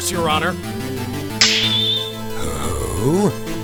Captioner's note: snap!